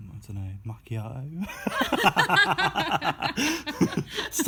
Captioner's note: laughter